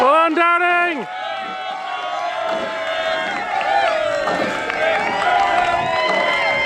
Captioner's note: cheering and applause